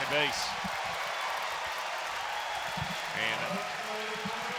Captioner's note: crowd cheering and clapping